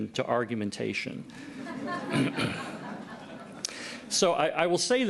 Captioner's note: laughter